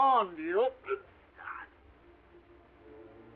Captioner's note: Sherlock grunting; dramatic orchestral music